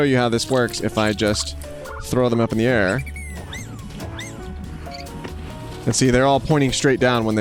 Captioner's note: hamsters squeaking